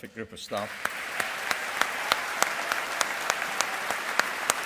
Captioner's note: all applauding